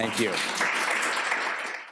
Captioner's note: applause